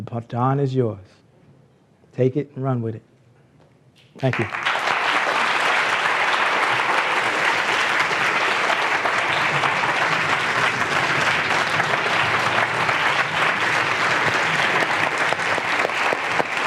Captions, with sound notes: the Baton is yours, take it and run with it. Thank you. (applause)